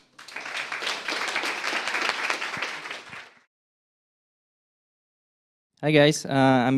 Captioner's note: applause